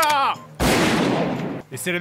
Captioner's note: gunshot